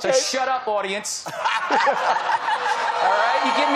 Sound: laughter

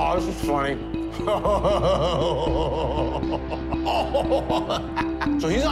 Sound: laughing

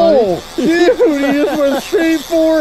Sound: laughing

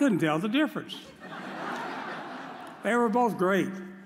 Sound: audience laughs

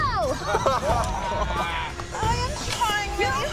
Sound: laughs

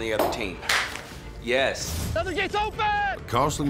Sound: claps hands

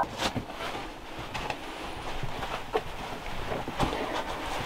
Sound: foot pattering

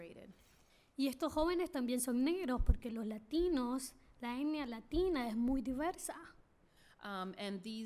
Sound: speaking spanish

